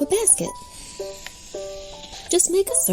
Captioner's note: pencil scratching